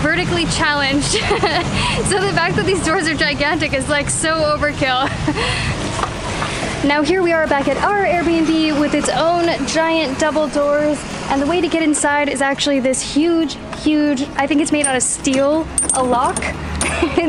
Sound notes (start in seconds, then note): 0.8 laughs